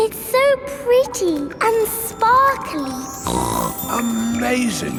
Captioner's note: snorts